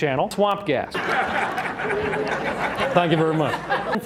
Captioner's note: raucous laughter from audience